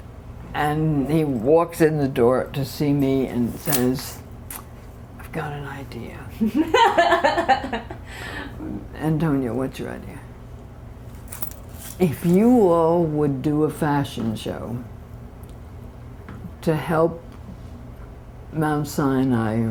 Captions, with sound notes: He walks in the door to see me and says, "I've got an idea, [LAUGHTER] and don't know what's your idea. If you will, would do a fashion show to help Mount Sinai,